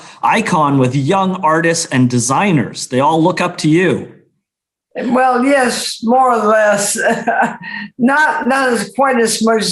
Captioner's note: laughs